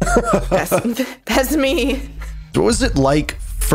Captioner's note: chuckles; laughs